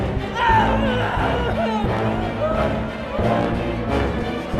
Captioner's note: crying